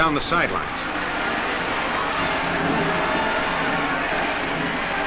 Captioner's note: crowd cheers